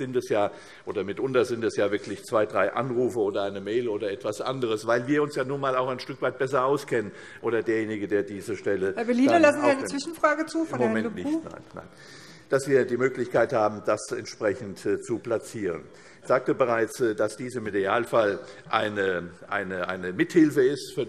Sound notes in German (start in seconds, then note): none